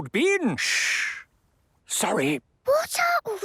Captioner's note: whispering; quietly